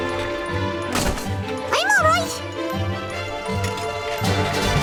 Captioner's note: crashing